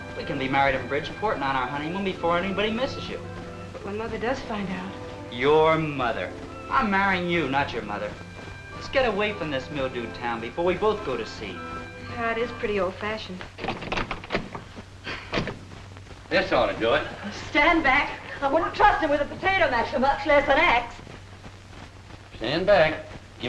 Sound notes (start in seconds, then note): 15.5 rattling